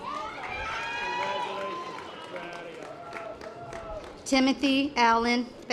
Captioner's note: audience applause